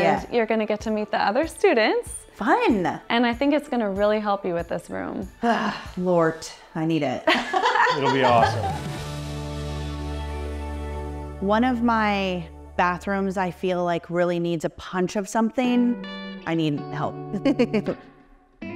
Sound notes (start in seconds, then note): 5.4 sighs; 7.2 laugh; 17.4 laughs; 18.5 light music